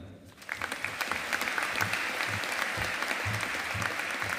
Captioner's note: audience applauding